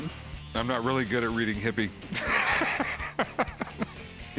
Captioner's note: laugh